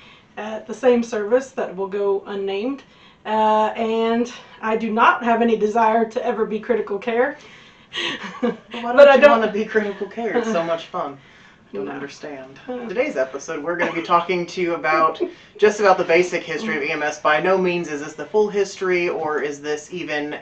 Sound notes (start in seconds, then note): 8.8 sarcastic voice